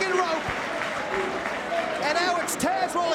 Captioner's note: spectators cheering